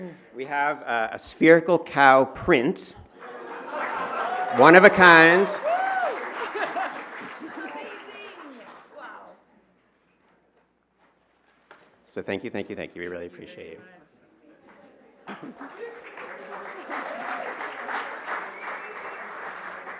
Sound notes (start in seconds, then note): 6.1 laughs; 15.3 applause